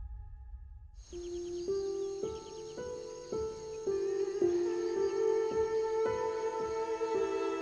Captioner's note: soft music; insects buzzing